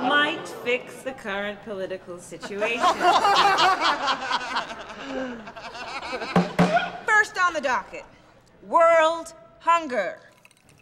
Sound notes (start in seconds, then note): 2.3 laughter; 6.3 bangs gavel